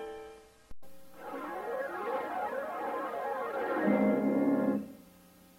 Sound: cartoon music playing; swirling sounds resuming

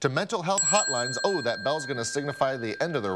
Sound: bell ringing

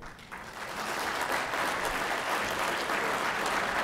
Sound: applause

